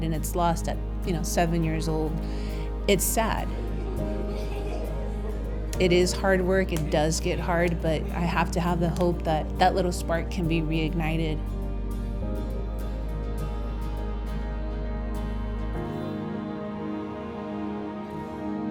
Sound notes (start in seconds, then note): 3.5 giggling; 11.8 peaceful music